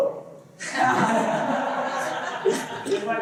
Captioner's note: laughter